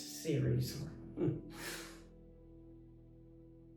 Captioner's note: laughs